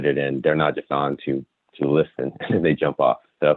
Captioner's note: giggles